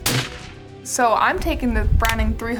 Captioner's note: gunshot ringing out